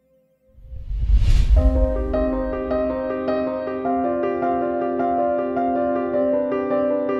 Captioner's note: air whooshing; dramatic music